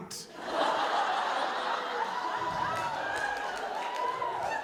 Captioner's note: audience laughing